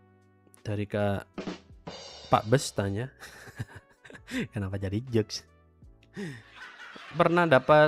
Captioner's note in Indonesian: tertawa